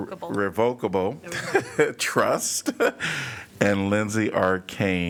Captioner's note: laughter